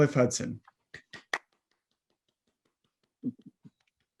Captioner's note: clapping